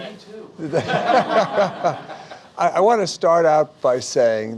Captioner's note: laughter